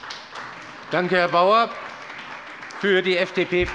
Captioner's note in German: Beifall bei der CDU und dem BÜNDNIS 90/DIE GRÜNEN